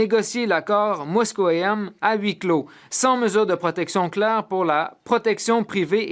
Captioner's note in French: voix de l'interprète